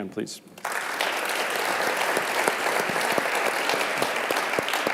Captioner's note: clapping